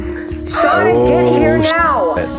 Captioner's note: beep